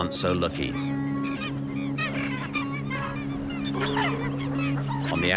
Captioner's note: birds squawking